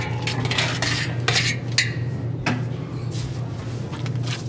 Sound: knife scraping; mixture squishing

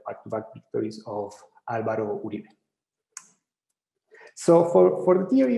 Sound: speaking in foreign language

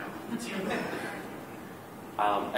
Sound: laughter

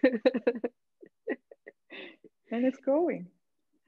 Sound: all laughing

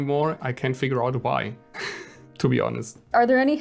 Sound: laughs

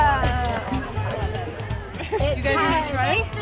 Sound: laughter

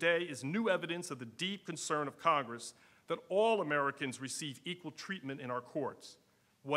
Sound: none

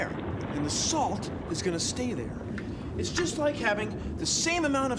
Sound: none

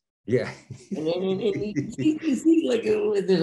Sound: Denis laughing

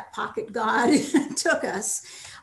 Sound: laughs

